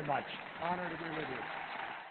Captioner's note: applause